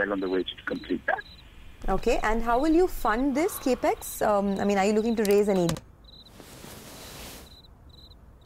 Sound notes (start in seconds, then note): 1.8 news continues to play on TV